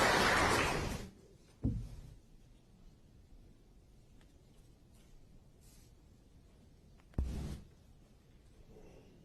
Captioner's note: applause